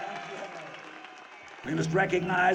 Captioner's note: audience cheers